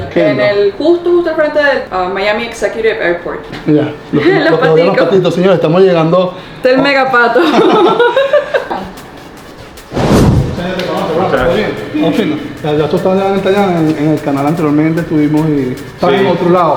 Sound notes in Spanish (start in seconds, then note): 10.7 risas